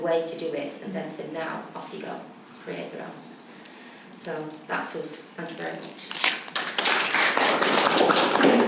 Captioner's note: clapping